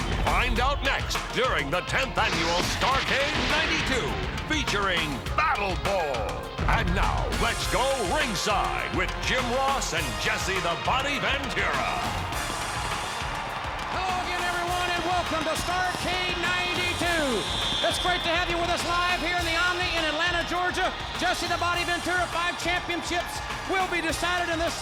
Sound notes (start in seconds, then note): 13.0 audience cheers; 13.0 fireworks bang